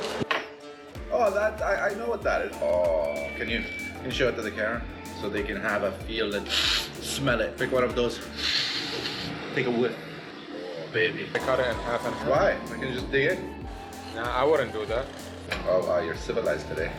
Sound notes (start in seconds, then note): 6.4 sniff; 8.2 sniff